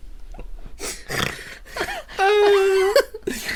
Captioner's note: snort